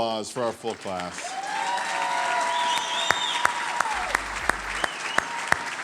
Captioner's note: audience cheering and applauding